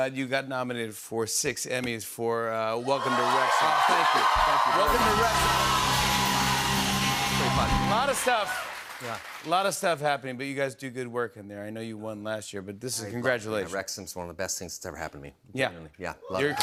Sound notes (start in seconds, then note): 6.0 cheers and applause